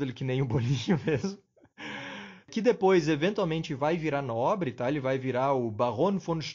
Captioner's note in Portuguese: risos